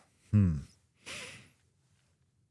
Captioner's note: sighs